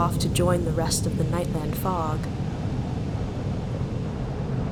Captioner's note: SFX: turbulence